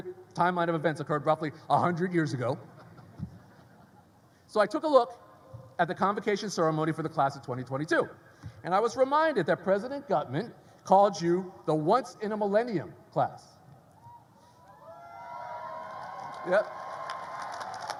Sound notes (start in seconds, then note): 14.6 graduates cheer; 15.3 graduates applaud